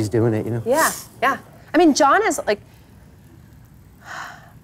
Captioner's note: sighs